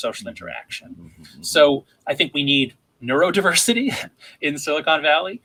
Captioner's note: chuckles